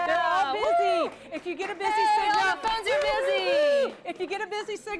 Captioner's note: cheering